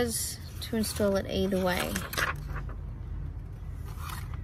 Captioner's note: paper rustles